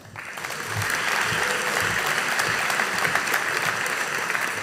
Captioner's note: audience applauding